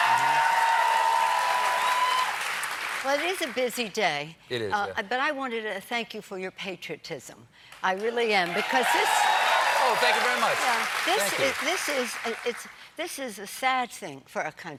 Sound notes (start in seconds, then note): 0.0 cheers and applause; 8.4 cheers and applause